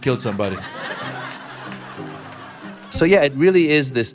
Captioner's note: laughter